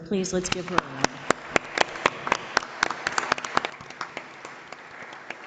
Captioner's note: audience applauding